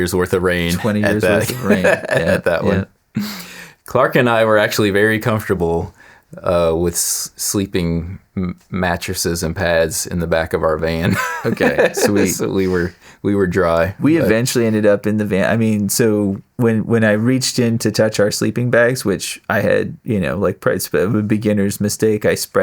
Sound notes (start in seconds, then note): 11.0 laughing